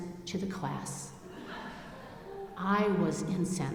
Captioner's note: audience laughing